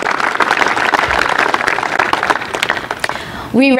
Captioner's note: applause